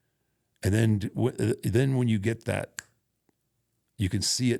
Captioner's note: fingers snap